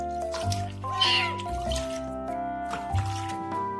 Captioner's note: meow!!!!